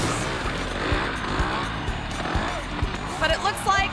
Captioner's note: motorbike engine rumbling